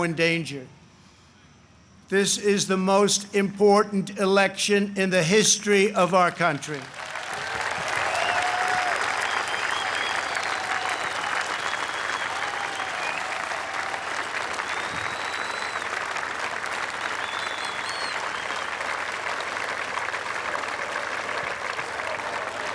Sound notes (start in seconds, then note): 10.6 applause